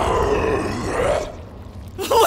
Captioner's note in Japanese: うなる声